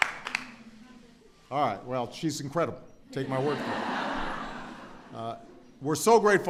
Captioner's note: laughter